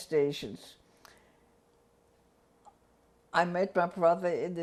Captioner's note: pauses for 3 seconds